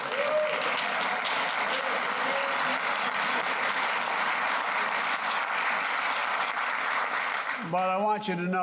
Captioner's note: applause